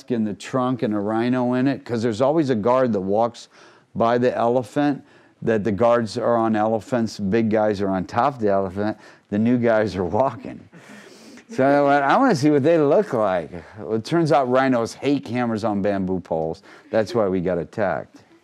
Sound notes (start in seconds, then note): 11.4 laughing